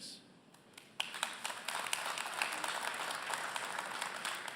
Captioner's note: applause